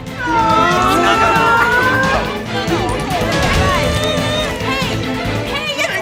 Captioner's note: crowd wailing